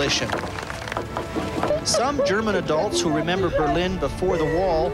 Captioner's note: rock hammers cement